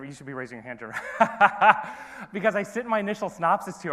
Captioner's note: laughs